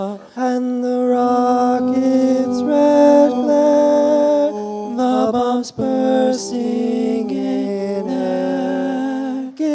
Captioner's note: none